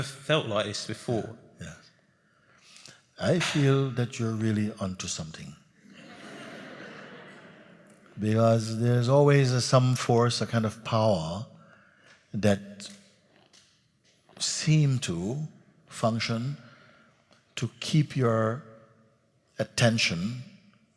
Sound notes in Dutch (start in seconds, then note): 5.8 gelach